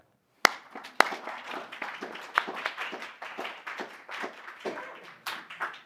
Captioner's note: applause